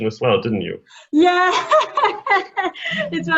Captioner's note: laughs hard